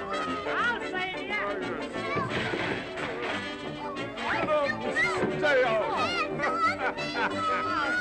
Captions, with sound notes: I'll save ya! Get out and stay out! (Laughs)